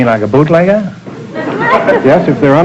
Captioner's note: audience laughter